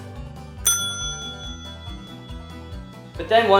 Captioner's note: ding